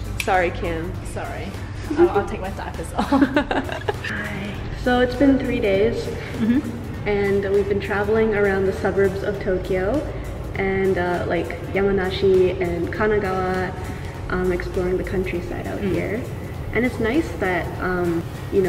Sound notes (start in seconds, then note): 3.0 both laughing